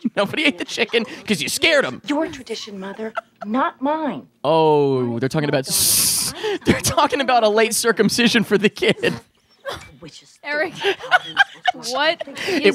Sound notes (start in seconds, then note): 6.0 laughs